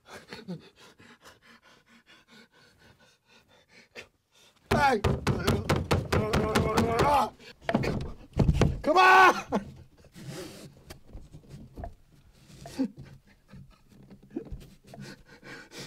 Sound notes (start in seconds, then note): 4.7 knocking sounds on the box